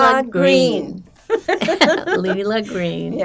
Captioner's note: laughing